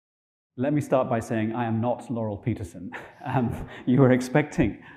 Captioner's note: chuckling